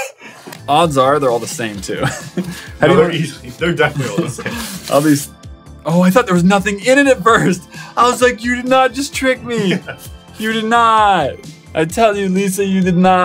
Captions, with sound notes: Odds are they're all the same to I'll be, oh i thought there Was nothing in It at first I was like you did not just trick (laugh) me you did not I tell you Lisa you did not